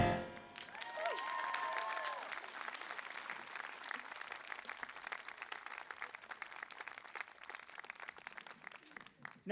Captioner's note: applause